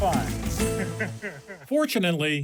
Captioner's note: laughs